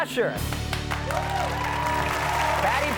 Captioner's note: audience cheers and applauds